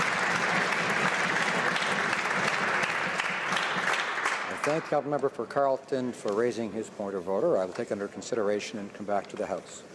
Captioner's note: some Applause